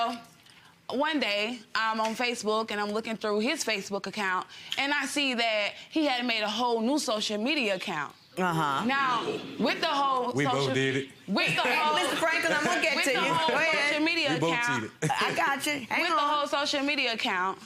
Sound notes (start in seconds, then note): 15.7 laughs